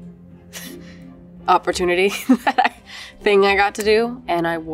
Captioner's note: laughs